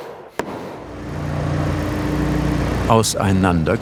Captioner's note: muffled hammer blows; engine noises